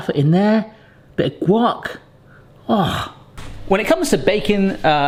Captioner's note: sighs